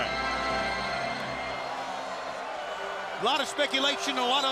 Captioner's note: crowd cheering